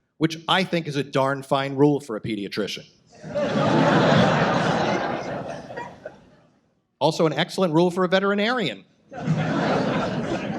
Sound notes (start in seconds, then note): 3.1 audience laughs; 7.7 audience laughs